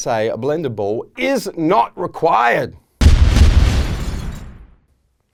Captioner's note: booming